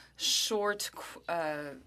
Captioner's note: speaking French